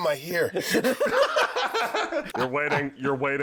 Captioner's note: general amusement